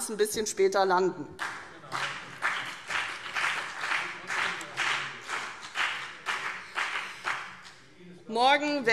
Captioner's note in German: Beifall CDU und BÜNDNIS 90/DIE GRÜNEN - Zuruf von der Regierungsbank: Genau!